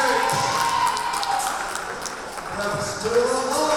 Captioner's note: crowd cheering